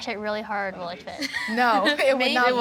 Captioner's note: laughter